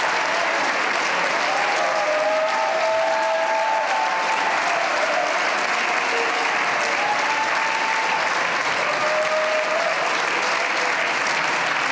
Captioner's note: cheers and applause